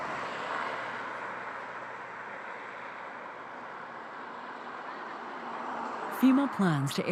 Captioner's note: speaking spanish